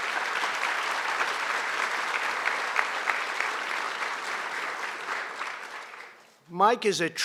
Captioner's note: applause